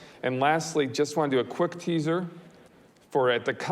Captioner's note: none